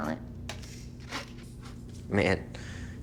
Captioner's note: object rasping